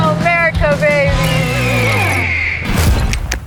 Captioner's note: eagle screeches